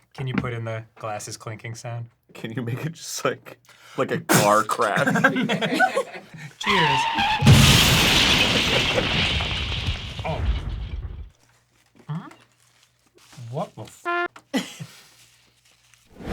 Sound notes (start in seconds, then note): 6.6 car crash sounds